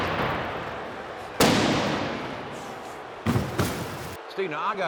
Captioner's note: truck thudding